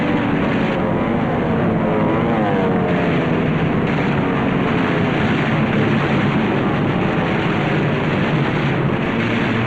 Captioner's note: sounds of gunfire and aircraft engines